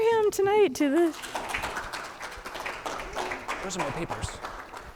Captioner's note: audience applauding